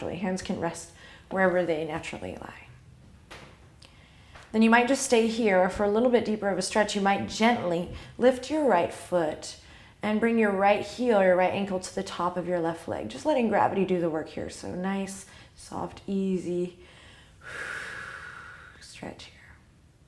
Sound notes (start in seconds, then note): 16.8 exhale